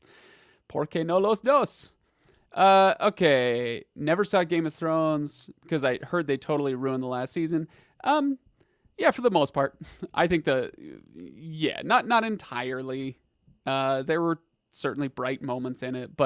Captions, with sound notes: (speaking in Spanish) Okay. Never saw "Game of Thrones" 'cause I heard they totally ruined the last season. Yeah, for the most part. I think not entirely. There were certainly bright moments in it,